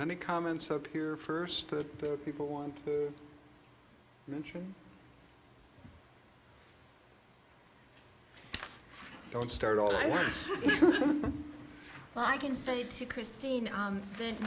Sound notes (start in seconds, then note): 10.0 laughs